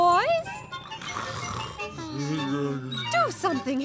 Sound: snoring

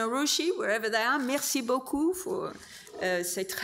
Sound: speaks French

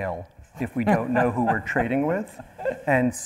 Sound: laughing

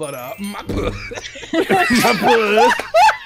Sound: laughter

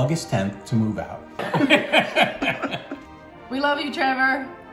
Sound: laughter

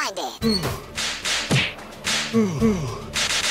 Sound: sound effects play

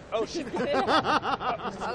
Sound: laughter

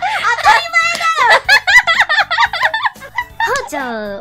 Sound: laughs

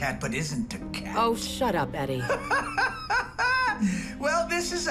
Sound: laughs

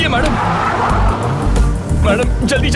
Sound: car engine revving

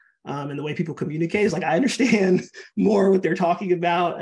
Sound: laughing

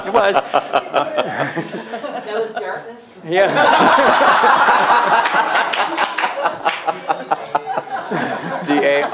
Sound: laughter

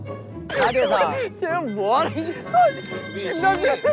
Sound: can't stop laughing

